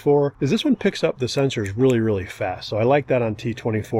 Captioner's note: snaps fingers